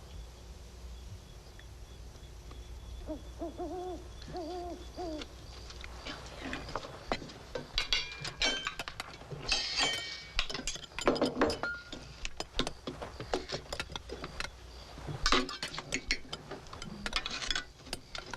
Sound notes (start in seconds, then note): 2.6 owl hooting; 7.6 dishes clinking